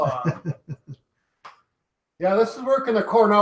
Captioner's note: chuckling